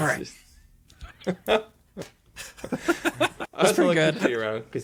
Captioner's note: laughing